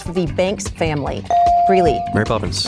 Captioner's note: bell dings